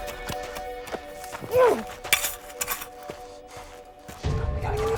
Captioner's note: Max growls